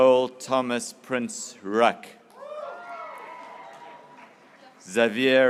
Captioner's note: graduates cheering